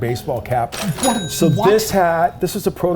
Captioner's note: cash register ringing